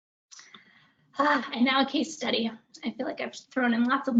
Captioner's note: sighs